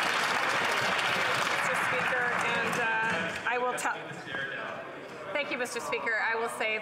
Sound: some Applause

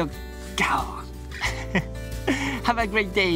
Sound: lion roar in Japanese

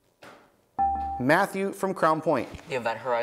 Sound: buzzer beeps

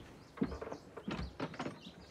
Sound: door opening

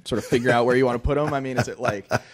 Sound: chuckling

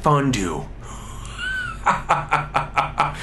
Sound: laughs

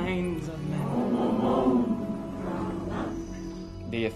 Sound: chanting

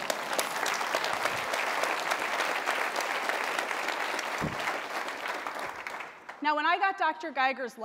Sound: applause

